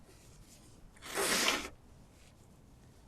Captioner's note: wiping nose